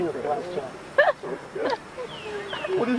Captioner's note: laughter